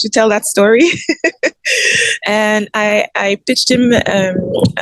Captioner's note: laughs